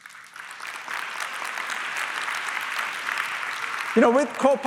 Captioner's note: applause